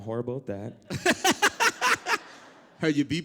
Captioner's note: laugh